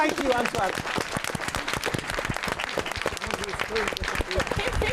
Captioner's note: applause